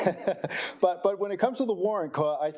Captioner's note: chuckling